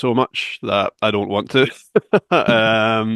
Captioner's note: laughs